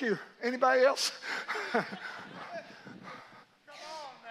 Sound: laughs

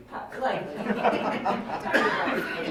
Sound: laughing

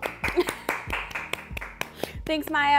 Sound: crowd clapping

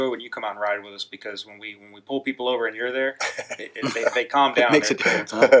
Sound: laughs; laughing

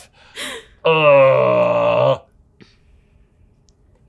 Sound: groaning

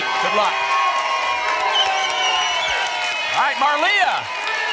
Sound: applause and cheering

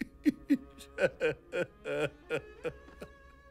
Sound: crying

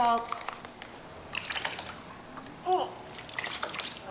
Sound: gagging; water dripping

